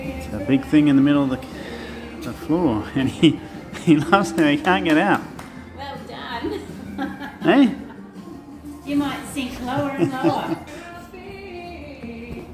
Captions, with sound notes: There's a a big thing in the middle of the floor, and he loves it, but he can't get out Well done (laughing) You might sink lower and lower